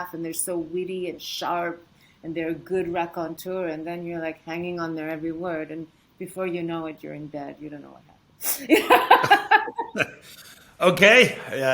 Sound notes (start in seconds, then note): 10.1 Padma guffaws